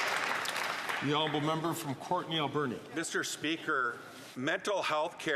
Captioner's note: some Applause